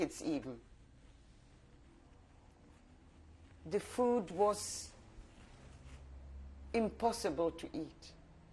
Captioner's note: pauses for 3 seconds